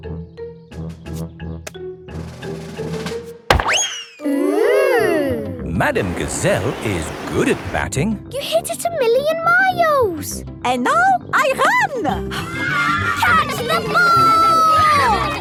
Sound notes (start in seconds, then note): 3.5 bang; 12.4 children cheering